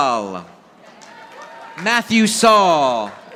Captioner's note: audience applauding